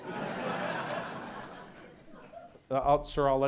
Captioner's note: audience laughs